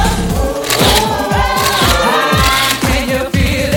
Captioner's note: cameras snapping